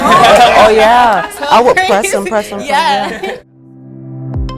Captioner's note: laughter